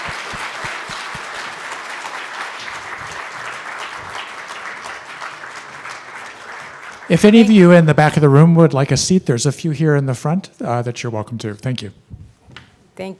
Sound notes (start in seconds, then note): 0.0 audience clapping